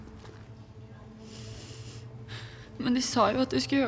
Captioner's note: breathing heavily